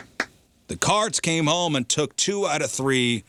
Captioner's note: clapping